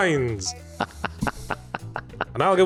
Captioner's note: laughing